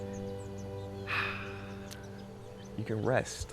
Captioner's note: excels deep breath